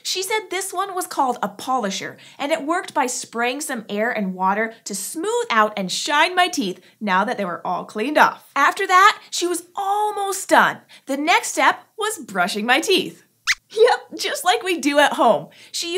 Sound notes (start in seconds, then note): 13.1 squeaks squeaks